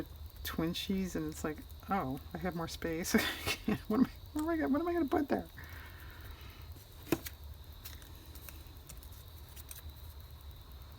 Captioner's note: laughs